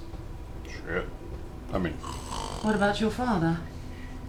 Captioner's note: snores